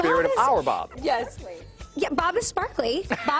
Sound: laughter

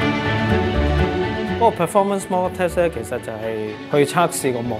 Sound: Cantonese

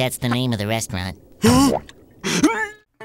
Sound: gasping

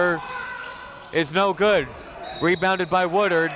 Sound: whistle

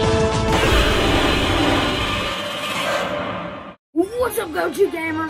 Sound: upbeat music continues; Godzilla roars

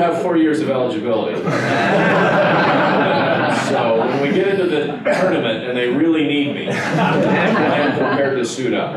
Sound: laughter

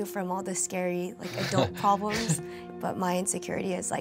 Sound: laughs

